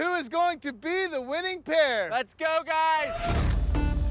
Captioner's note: whooping